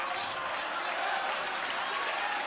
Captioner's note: cheers and applause